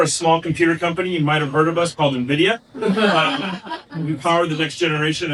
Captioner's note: laughing